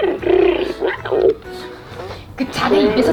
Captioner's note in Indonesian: tertawa